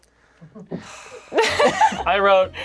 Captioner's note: sighs